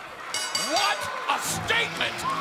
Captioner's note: bell ringing